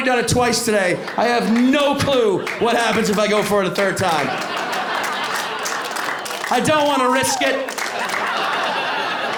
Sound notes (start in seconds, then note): 5.4 applause